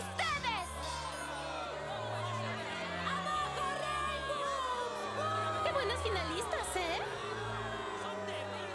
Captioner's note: booing continues